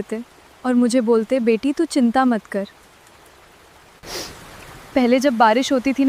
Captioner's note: sniffling